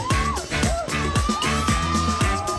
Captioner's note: cheering